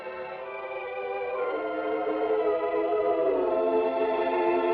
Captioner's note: none